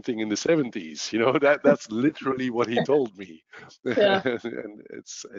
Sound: laughs

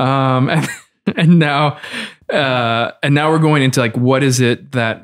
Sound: laughs

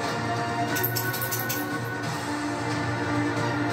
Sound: Nooky's collar noises

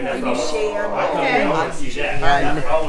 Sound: group chatters

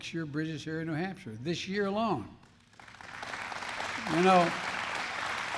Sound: applause

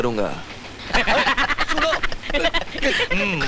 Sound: laughs

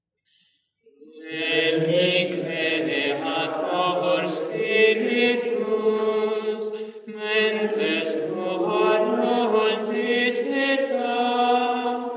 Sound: chant

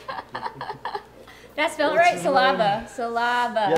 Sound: laughing

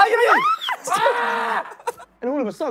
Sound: screaming

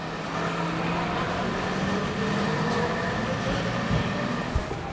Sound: street sounds

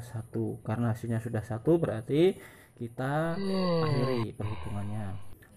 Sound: hoaaaaam

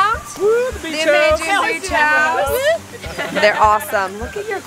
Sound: friends cheering

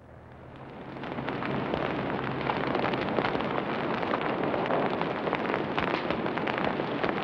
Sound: fire crackling

